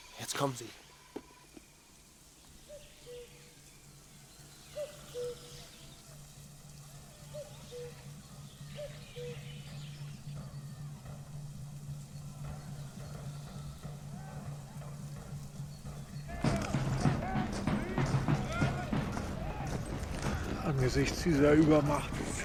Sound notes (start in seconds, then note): 13.4 Wind pfeift